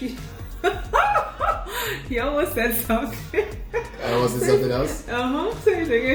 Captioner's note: laughs